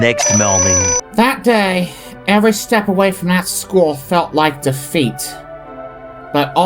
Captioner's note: voice-over